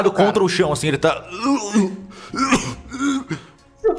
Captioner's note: groaning in pain